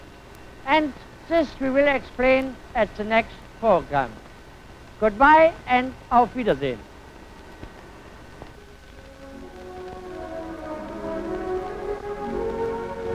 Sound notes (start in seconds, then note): 5.4 speaks in a foreign language; 8.6 classical music